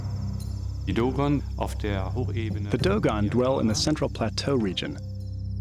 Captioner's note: non-english speech